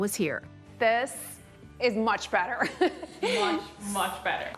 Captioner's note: she laughs